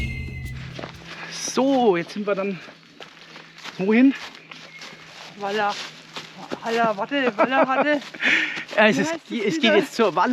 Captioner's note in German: lacht